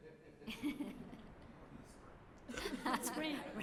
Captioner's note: laughter; speaking spanish